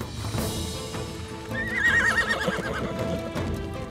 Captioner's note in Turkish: At kişniyor